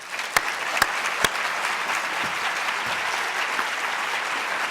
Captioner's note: audience applauding